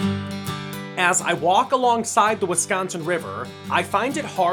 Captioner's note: voiceover